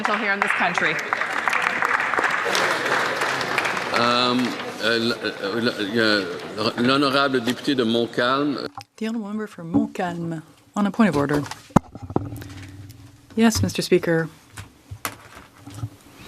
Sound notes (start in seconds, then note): 5.4 some Applause